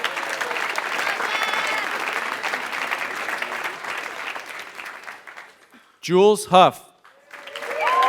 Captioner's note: applause